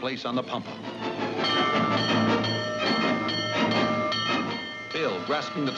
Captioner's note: bell ringing